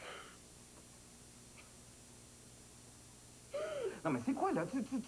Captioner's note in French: Elle pleure